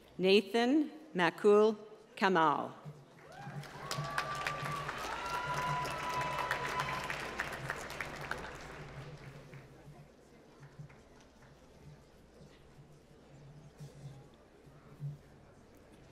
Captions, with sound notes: Nathan Macul Kamal. (applause)